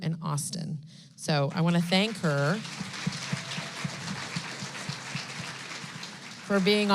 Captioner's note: applause